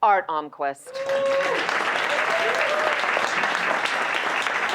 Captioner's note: applause